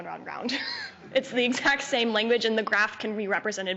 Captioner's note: chuckling